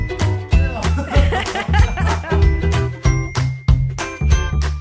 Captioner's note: laughter